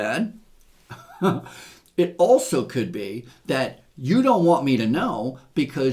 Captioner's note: chuckles